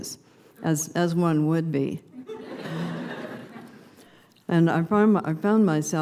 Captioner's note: laughter